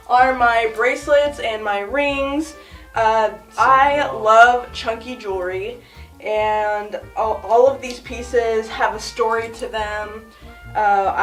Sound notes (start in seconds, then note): none